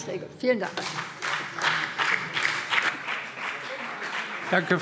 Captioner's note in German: Beifall BÜNDNIS 90/DIE GRÜNEN und vereinzelt CDU